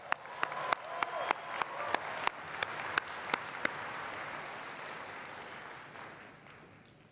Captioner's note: applause